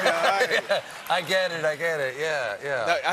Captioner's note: laughter